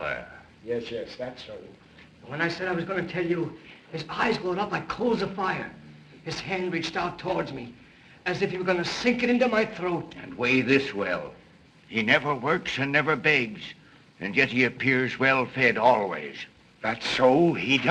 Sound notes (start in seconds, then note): none